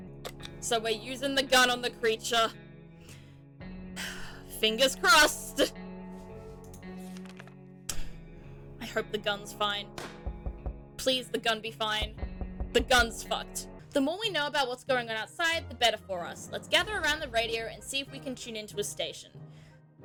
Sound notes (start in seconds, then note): 4.0 sighs; 10.0 in-game gunshot; 19.8 sigh